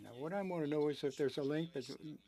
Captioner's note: speaking French